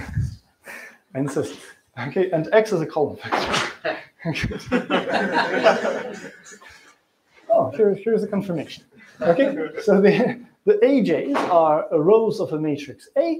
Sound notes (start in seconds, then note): 4.4 laughter